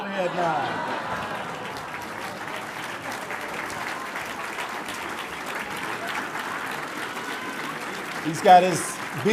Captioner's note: audience laughter and applause; applause